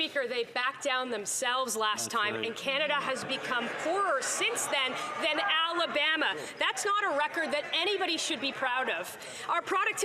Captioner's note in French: voix de l'interprète